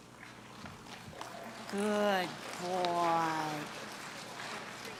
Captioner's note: clapping